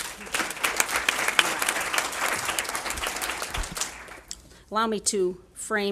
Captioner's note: applause